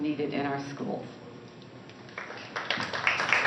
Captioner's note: applause